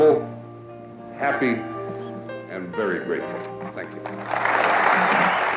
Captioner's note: applause